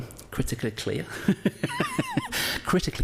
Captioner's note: laughs